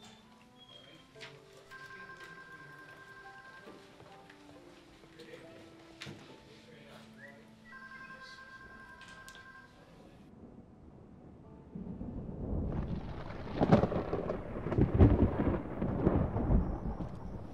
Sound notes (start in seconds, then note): 1.7 phone ringing; 10.3 thunder